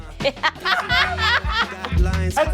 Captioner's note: laughs